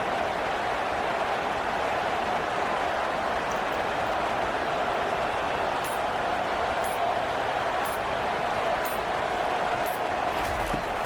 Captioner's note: crowd Noises